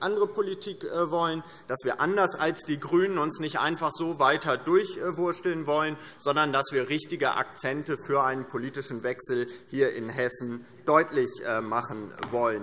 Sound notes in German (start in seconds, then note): none